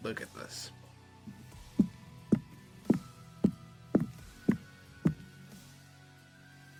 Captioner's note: footsteps